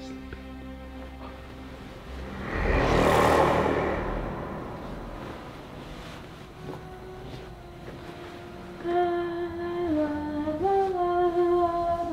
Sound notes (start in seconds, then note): 2.0 deep growling; 9.1 humming